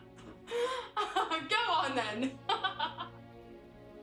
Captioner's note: laughs; soft music